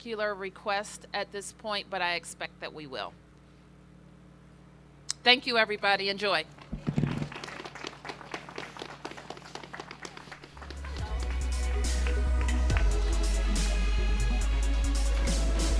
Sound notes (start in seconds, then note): 6.9 applause